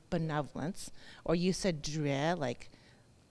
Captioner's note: speaks in foreign language